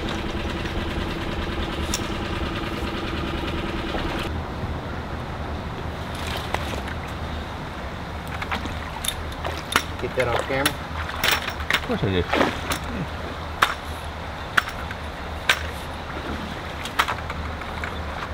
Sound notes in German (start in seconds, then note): 12.6 Klackern geht weiter